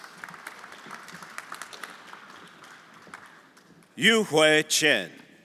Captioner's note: everyone applauding